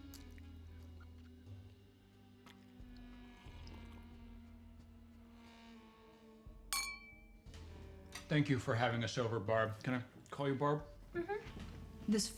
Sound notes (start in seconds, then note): 2.4 eerie music; 6.7 glass clinking